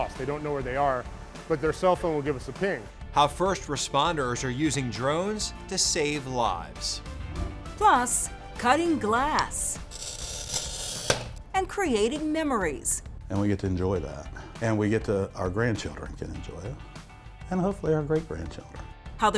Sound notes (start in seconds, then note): 9.6 glass snaps; 10.4 glass rattling